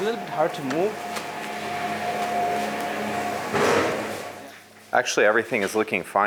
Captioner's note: machinery humming